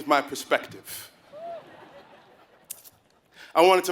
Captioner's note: laugh